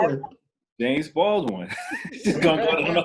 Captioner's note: laughs